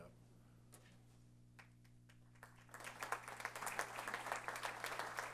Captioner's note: applause